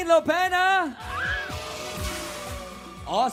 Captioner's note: audience cheering